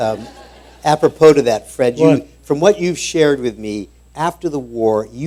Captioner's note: laughter